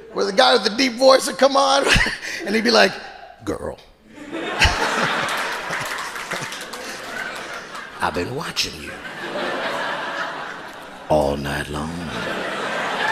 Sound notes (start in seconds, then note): 4.2 audience applauding and laughing